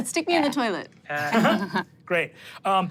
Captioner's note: everyone chuckles